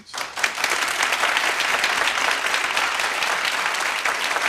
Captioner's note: clapping